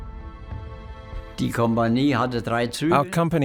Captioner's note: speaking in foreign language